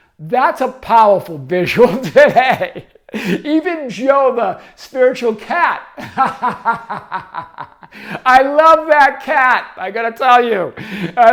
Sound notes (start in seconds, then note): 5.9 laughing